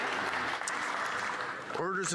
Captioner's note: some Applause